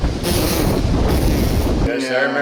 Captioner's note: blows raspberry